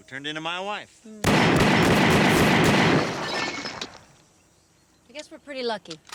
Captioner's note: glass shattering; gunshots blasting